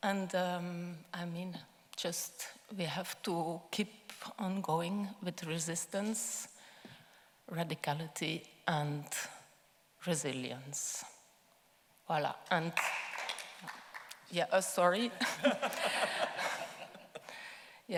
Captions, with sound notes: And, I mean, just we have to keep on going with resistance, radicality and resilience. Voila. And... (audience clapping) Yeah, sorry. (laughing)